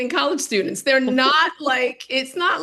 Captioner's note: laughing